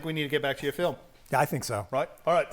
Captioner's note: none